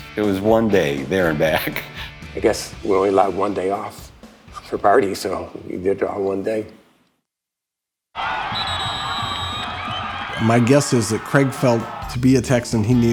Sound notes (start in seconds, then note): 8.1 fans cheering; 8.2 referee blowing whistle